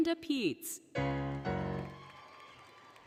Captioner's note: applause, Cheering; applause, Cheering, Music